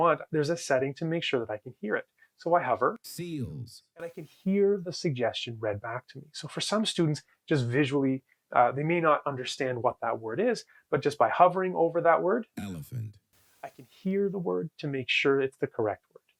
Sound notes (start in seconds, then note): 2.8 AI speech; 12.1 AI speech